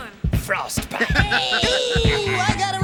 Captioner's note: animals laughing